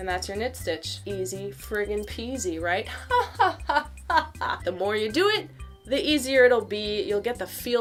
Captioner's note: exaggerated laughter